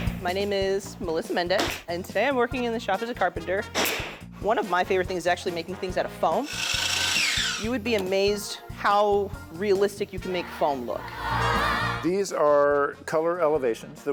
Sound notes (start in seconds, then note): 6.4 machine whirring